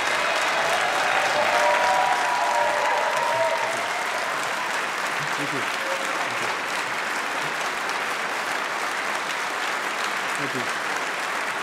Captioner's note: applause